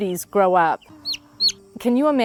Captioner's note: chick chirps